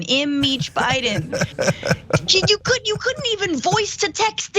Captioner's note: laugh